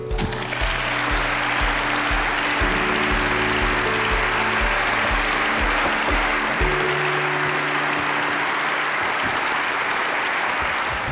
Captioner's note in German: Applaus